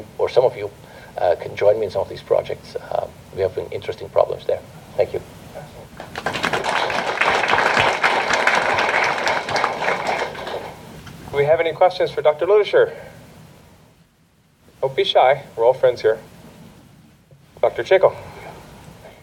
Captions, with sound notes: or some of you can join me in some of these projects. We have interesting problems there. Thank you. [applause] Do we have any questions for Dr. Ludaescher? Don't be shy. We're all friends here. Dr. Chacko!